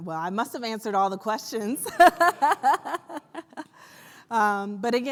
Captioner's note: laughs